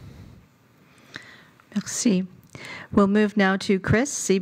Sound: speaking French

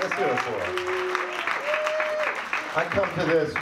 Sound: audience cheering

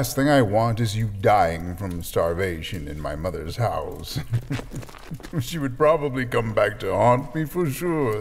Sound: chuckles

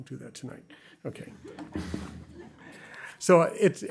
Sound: chuckling

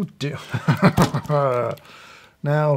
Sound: laughs

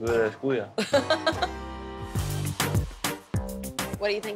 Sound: laughs

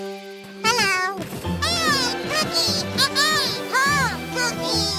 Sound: joyful exclamations

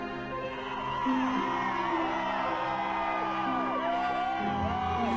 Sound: crowd cheering

